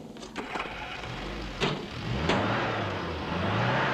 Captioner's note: engine revving